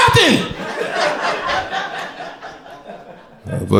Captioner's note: crowd laughter